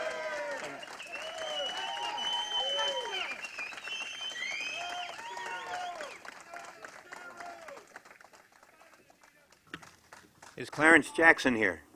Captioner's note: applause